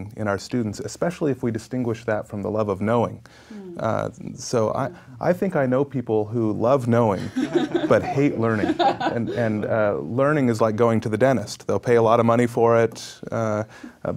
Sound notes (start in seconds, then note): 7.2 laughing